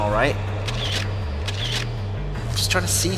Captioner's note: camera shutter clicking